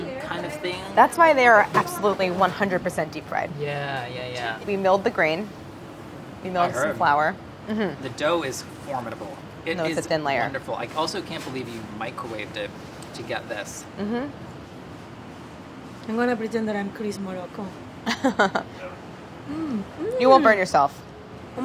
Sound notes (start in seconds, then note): 18.0 laughs